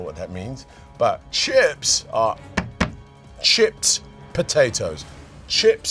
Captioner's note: taps